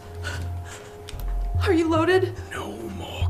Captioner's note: Angelica whimpers